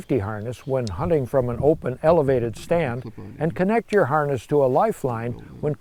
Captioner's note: harness clinks